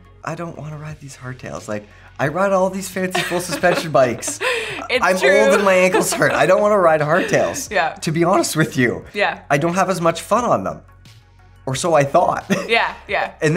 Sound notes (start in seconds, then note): 3.1 laughs